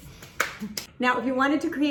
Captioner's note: claps her hands